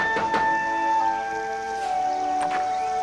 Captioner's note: knocking on door